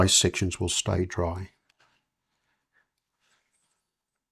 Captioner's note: silence